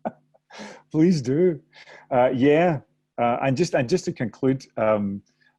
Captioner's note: laughter